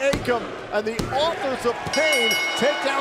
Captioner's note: bell ringing